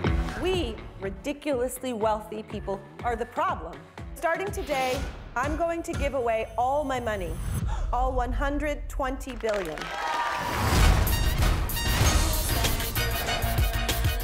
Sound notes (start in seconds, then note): 7.5 audience gasps; 9.4 audience cheering